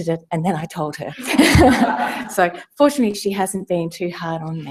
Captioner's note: laugh